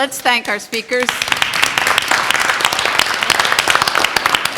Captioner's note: applause